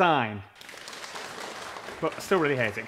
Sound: small applause

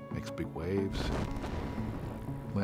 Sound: impact sound

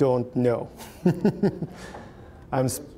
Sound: chuckling

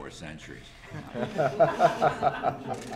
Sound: laughter

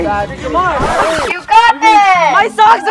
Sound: vinyl scratch

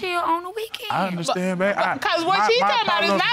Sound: stammers

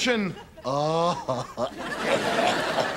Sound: <i>moaning; <i>coughing

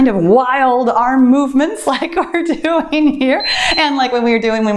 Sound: timer beeps

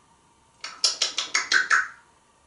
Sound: smacking sounds

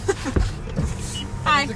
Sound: laughing; window opening

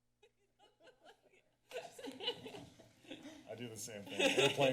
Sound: laughter

